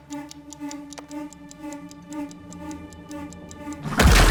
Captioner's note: chess clock ticking; creature roaring